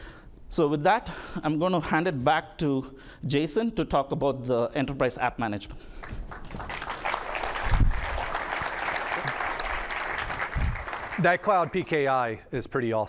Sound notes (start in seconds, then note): 6.0 applause